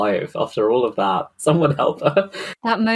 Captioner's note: laughing